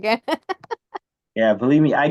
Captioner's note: laughs